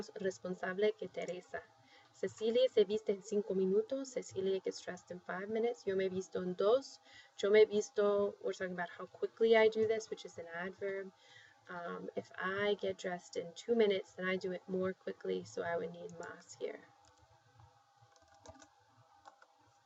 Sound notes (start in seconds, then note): 1.7 spanish; 2.3 speaking spanish; 8.6 speaking spanish